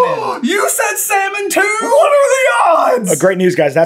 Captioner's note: gaaaaaasp